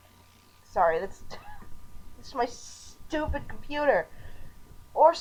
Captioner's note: chuckle